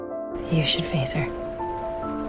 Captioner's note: voiceover